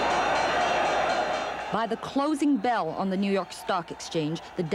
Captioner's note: bell clangs